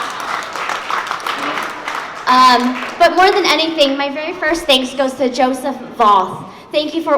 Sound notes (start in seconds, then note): 3.1 applause